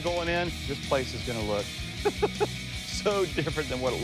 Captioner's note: laughs